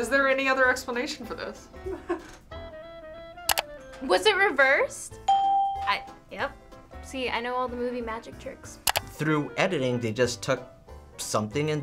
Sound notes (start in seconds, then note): 5.2 ding